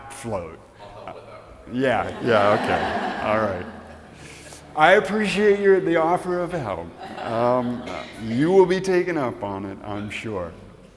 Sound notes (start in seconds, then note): 1.8 audience laughs